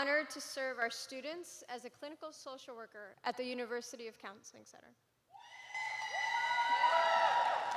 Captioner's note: cheering